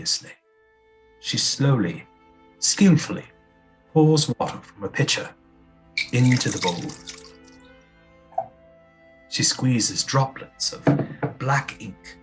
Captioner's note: sound of water pouring